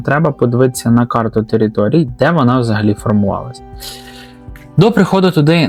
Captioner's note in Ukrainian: сопіння